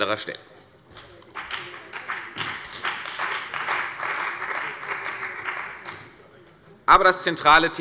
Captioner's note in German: Beifall bei der CDU und dem BÜNDNIS 90/DIE GRÜNEN